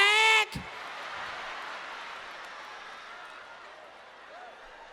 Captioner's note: audience laughing